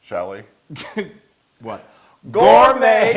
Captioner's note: laugh